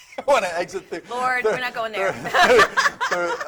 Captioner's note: laughs